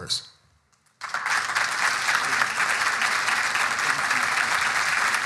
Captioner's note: audience applauding